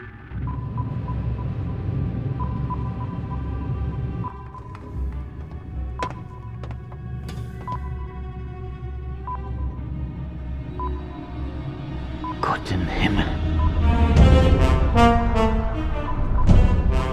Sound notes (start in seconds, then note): 12.0 speaking in german